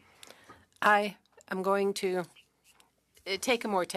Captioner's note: speaking French